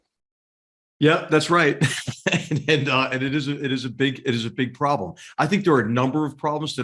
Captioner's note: laugh